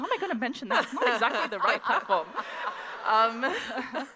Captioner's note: laughter